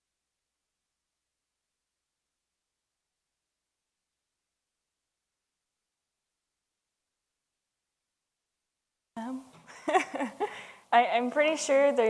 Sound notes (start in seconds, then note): 9.6 laughs